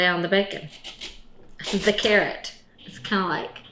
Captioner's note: carrot slicing